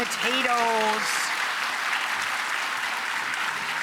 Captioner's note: applause